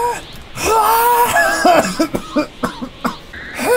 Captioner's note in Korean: 기침하는